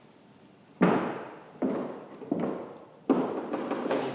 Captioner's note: footsteps